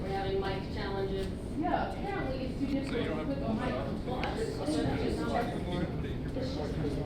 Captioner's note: cast talking